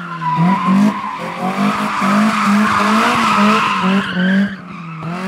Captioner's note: car sounds